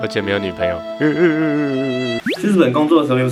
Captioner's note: crying